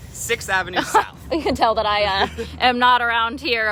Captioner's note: laughs